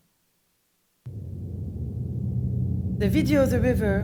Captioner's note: engine hum